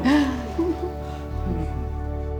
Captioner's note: chuckles